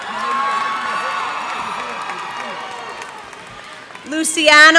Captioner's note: cheers and applause